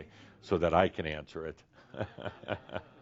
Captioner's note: chuckles